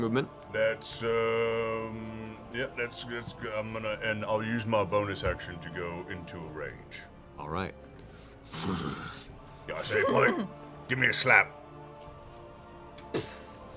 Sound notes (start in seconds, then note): 8.5 growling; 12.9 slap